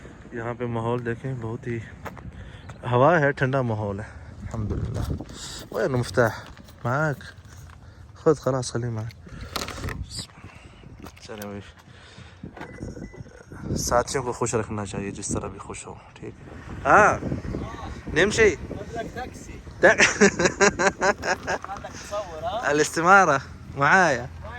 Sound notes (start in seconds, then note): 5.7 Arabic; 16.8 Arabic; 22.1 Arabic